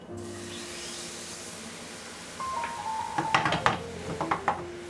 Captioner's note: pan sizzling